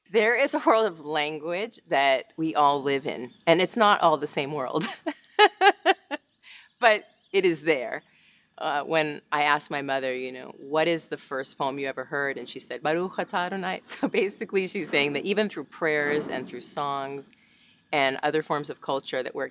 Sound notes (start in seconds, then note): 4.7 laughs; 12.9 speaks in foreign language